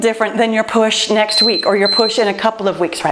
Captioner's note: timer beeps